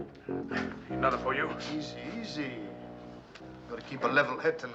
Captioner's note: none